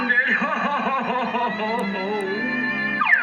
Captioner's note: sobbing